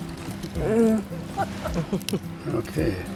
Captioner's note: laughing